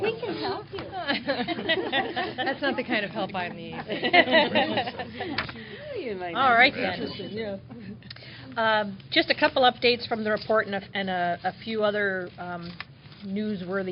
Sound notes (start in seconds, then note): 4.9 laughter